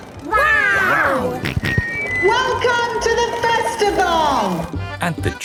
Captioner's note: on microphone; jolly folk music